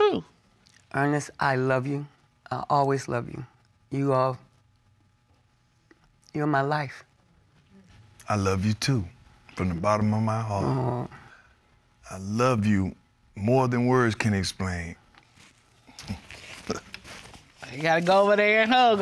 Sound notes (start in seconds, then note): 16.5 chuckling